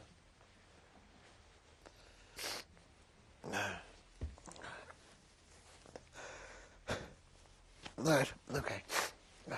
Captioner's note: pauses for 7 seconds